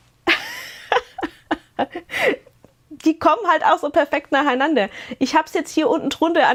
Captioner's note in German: gelächter